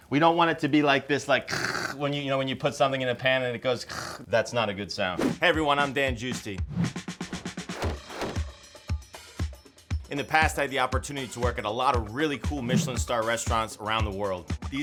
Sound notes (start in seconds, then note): 1.5 hissing; 3.8 hissing; 7.5 upbeat music